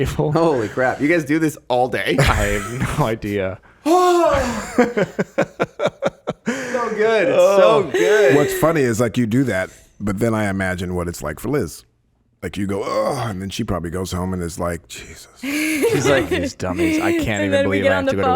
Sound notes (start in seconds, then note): 3.9 Justin laughing; 4.0 exhaling loudly; 15.4 laughing